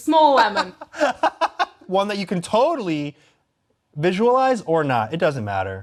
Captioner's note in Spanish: risas